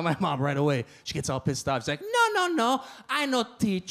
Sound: mimics accent

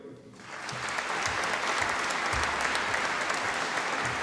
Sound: audience applauding

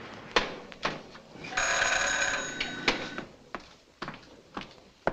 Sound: doorbell rings

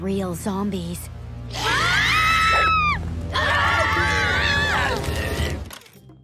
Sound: screaming

